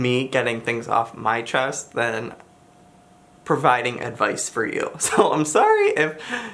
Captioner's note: chuckles